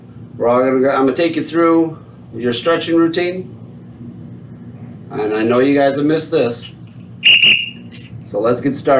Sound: blows whistle

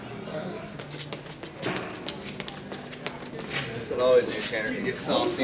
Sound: feet scuffling

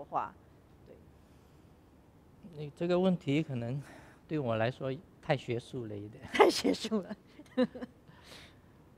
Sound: laughs

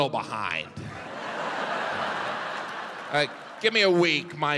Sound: audience laughing

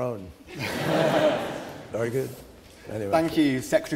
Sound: laughter

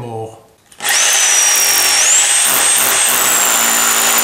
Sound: motor revs

